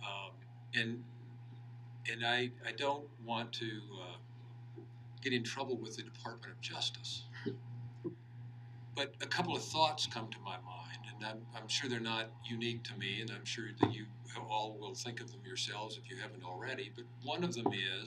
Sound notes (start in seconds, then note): 10.4 laughing